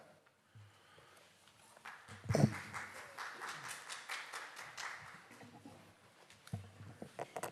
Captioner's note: audience Applauding